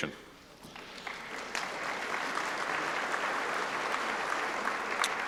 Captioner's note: applause